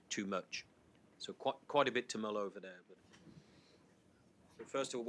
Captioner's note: faintly speaking